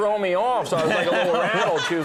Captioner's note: audience laughing